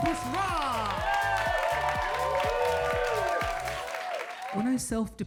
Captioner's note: audience cheering and applauding